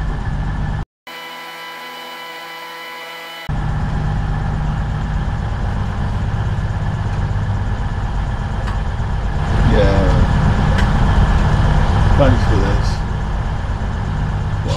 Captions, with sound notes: [audio buzzing] Yeah. Thanks for this.